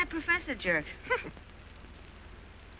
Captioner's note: scoffing